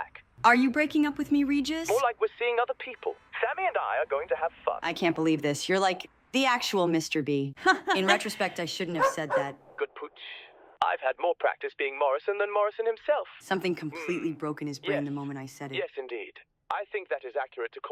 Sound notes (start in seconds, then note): 7.6 laughs; 8.9 dog barking